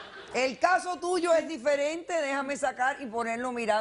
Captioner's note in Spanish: risas